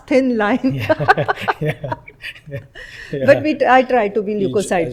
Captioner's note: laughter